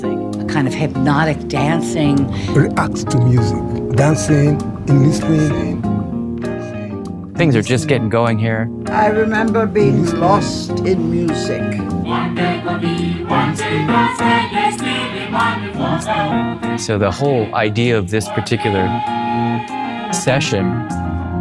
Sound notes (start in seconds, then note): 0.0 recorded Voiceover; 5.4 upbeat funk music; 9.0 recorded Voiceover